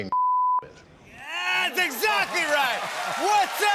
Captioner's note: cheers and applause